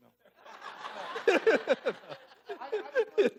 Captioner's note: laughing